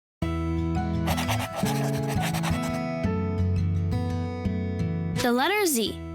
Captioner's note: pencil scribbling; gentle music